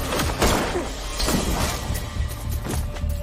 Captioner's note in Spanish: Disparos